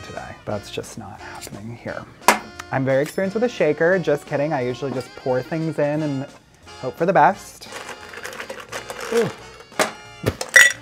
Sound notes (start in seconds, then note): 7.6 ice clattering; 7.9 jazzy music; 9.0 grunts